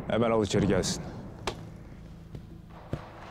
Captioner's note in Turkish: El vurma sesi